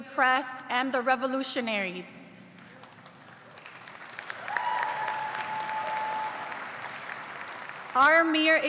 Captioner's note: cheers and applause